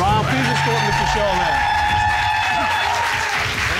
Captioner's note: audience cheer, applaud